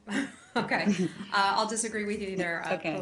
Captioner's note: laughter